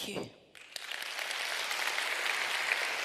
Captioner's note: applause